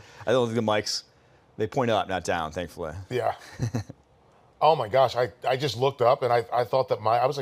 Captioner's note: laughter